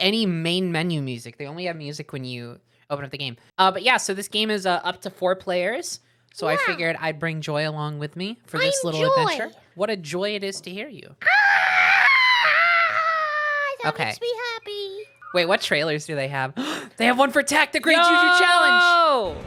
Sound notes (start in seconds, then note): 6.3 kitty voice; 11.3 screaming in kitty voice; 16.6 gasp